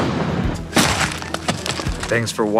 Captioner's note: vegetable thuds